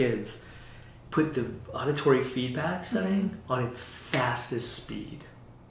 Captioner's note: snaps fingers